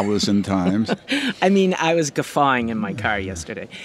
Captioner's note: laughs